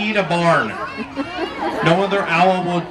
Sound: audience laughing

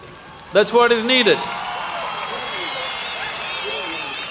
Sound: applause

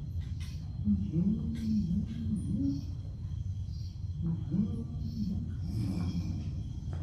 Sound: humming

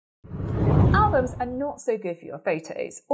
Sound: scene whooshes

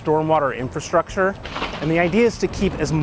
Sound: thunder claps

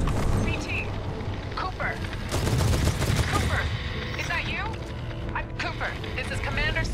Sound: static

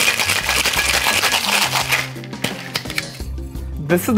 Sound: ice shaking

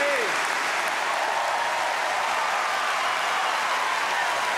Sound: audience cheers

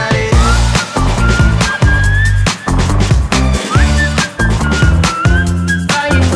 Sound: whistling

